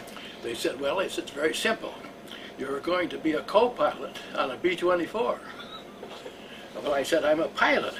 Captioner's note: laughter